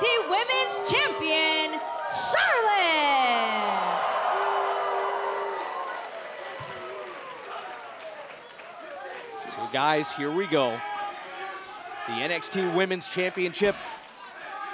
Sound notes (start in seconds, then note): 2.7 cheers and applause